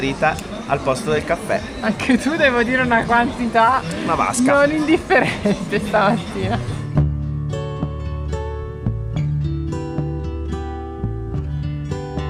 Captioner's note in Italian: risate